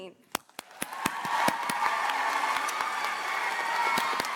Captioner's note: audience applauds